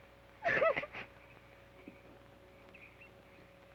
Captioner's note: sobs